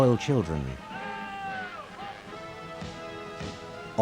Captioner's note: soldiers shouting; ceremonious music